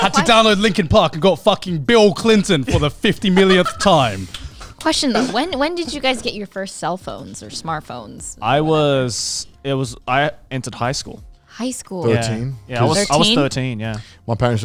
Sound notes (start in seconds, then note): 2.6 laughing